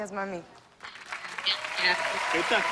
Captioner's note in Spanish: Aplausos